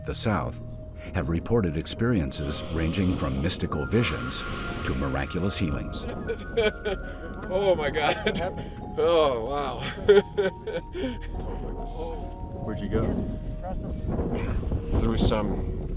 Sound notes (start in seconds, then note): 6.0 laughs